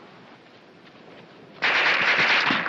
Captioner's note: gunshots